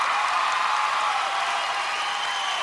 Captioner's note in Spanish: aplausos